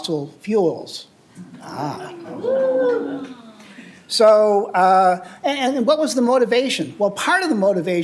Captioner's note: applause